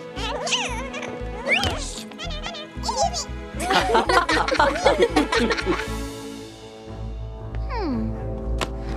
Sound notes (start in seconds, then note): 3.5 laughing